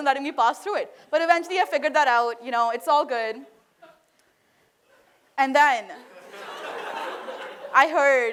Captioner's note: laughter